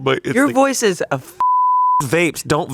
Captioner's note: beep